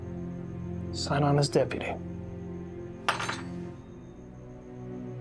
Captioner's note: drops badge on counter